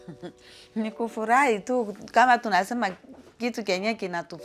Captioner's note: speaks in Swahili